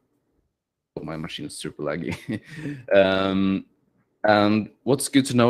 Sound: chuckles

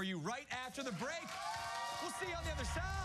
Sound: cheers and applause

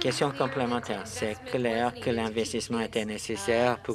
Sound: some Applause

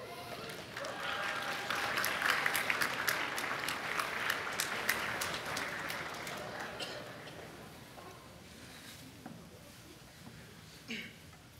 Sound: applause

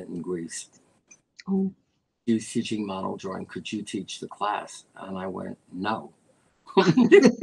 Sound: laughter

